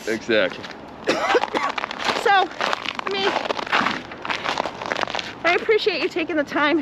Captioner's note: coughs